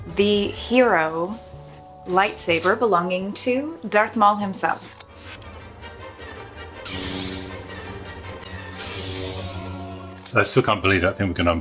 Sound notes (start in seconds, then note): 4.8 music; 6.8 lightsaber buzzes and hums